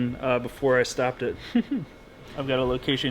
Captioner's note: laughs